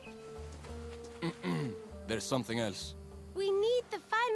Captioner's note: clears throat